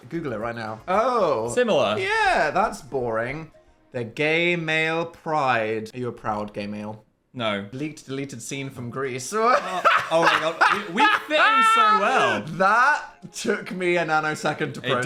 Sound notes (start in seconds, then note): 9.5 Dan laughing